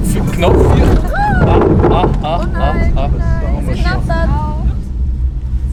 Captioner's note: noise from the boat stranding on the ground